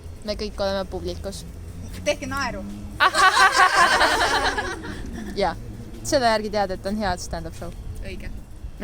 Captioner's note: hahahaha